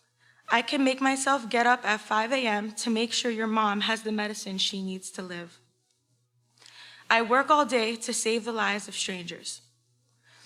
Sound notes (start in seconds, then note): none